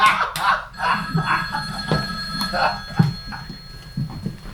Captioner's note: laughing; phone ringing